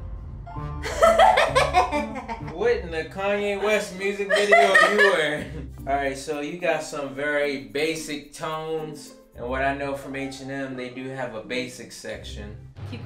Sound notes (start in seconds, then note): 0.9 laughing